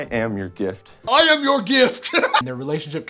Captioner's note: laughs